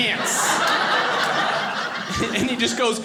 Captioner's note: audience laughing